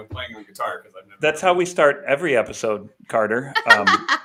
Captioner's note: laughter